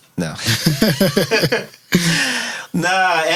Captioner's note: laughing